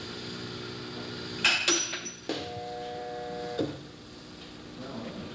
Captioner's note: metal clanking